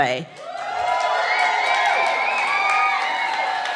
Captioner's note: cheering